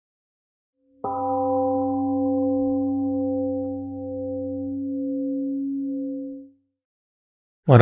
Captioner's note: temple gong rings and fades